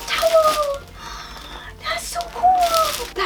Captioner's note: gasp